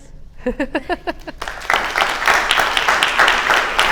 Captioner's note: applause